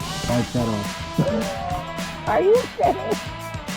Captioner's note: laughs